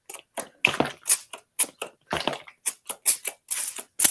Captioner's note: spraying